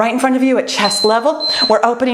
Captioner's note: timer beeps